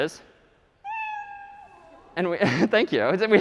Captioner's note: meow; laughing